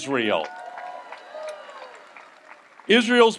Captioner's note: audience applauds